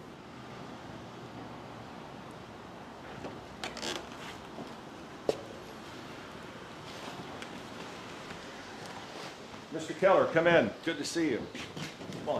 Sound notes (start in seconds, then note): none